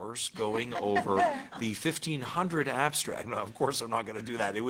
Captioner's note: attendees laughing